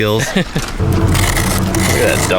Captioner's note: laughs